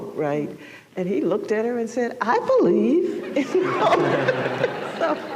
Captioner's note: laughter; laughing